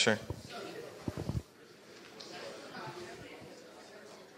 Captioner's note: people chattering